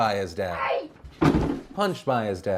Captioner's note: harsh bang